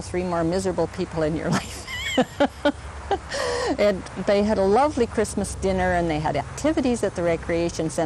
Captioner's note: laughs